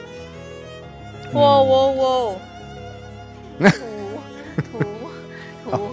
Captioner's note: laughs